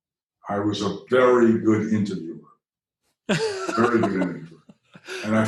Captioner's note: chuckle